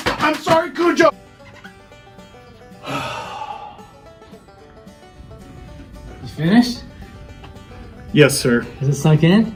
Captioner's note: sigh